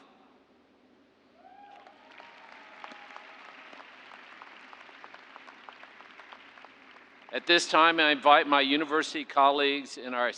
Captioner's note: cheers and applause